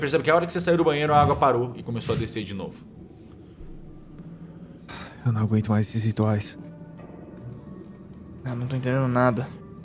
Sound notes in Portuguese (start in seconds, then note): 4.9 suspiro